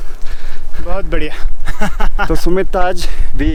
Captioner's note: laughs